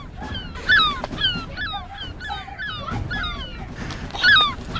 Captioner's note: children screaming; gull squawking